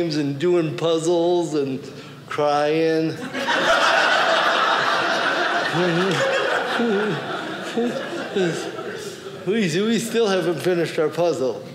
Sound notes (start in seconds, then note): 3.2 audience laughing